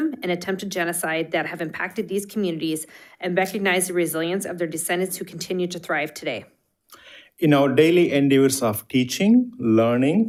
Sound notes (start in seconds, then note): none